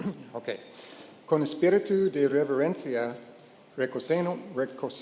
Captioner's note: speaking in Spanish